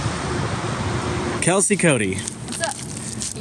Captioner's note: footsteps on pavement